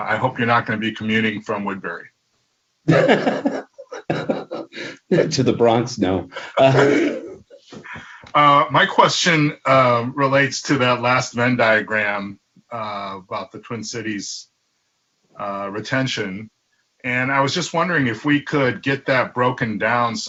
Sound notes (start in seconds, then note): 2.8 laughs